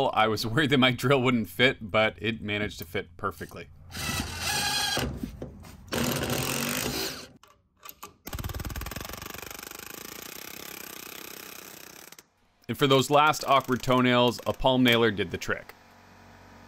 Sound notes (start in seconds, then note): 4.3 rapid banging of a pneumatic palm nailer being used